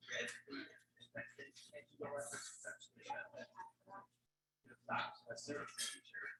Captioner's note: people chattering indistinctly continues